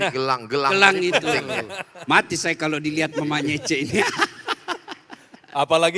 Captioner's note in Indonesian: tertawa